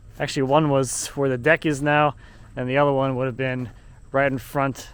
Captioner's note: none